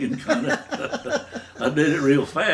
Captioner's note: both laughing